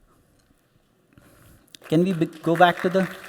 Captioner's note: applause